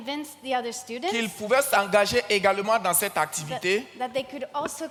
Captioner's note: continues in French